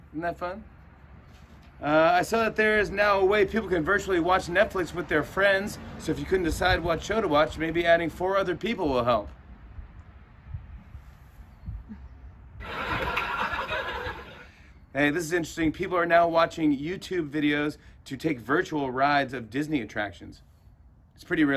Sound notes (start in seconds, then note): 12.6 laughter